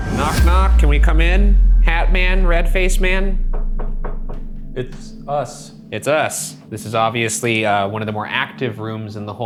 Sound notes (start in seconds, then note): 3.4 knocks